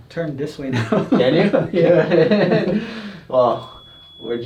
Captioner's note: both laughing